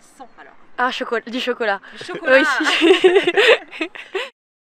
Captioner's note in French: rires